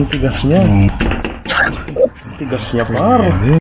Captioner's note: awkward laugh